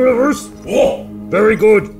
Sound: person off screen groaning

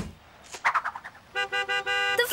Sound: horn honking

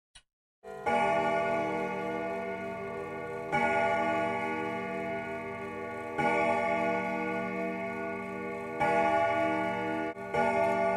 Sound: clock ticking and chimes

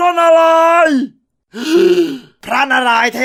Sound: gasp

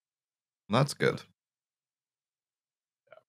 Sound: quietly

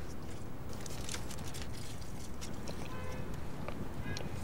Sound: paper rustling

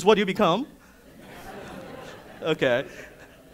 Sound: audience mumbling

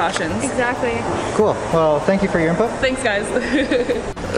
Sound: laughs

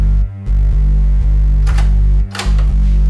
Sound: door opens

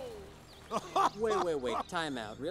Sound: Klaus laughing

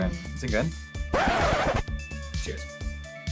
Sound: record scratches

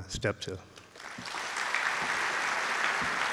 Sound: claps

